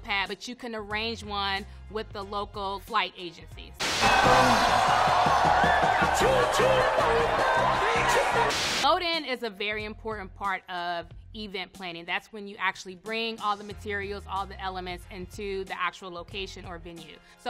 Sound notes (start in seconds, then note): 3.8 crowd cheering; 3.8 lively party music